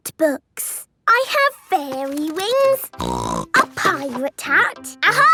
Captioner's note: snorting